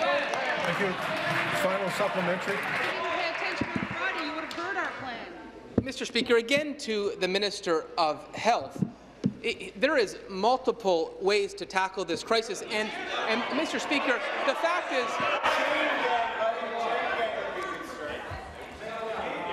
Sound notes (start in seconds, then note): 3.7 applause